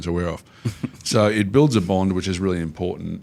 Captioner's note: chuckles